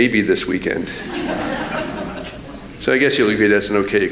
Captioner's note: laughter